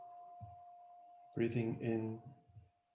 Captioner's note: sound of the bell, silence, half-sound